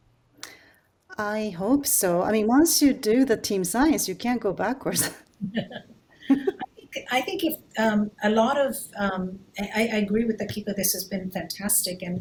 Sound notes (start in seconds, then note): 6.2 laughing